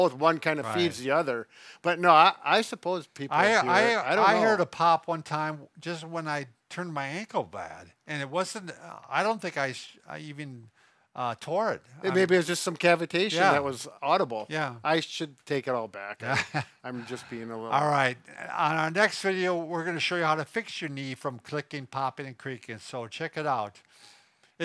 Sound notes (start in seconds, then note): 16.3 chuckles